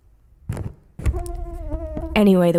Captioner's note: mosquito buzzing